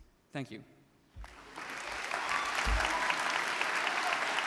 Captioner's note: audience clapping